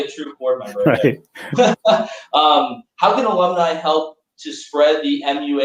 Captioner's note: laughter